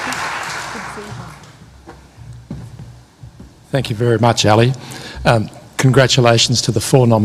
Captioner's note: applause